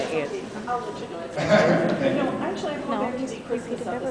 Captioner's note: laughs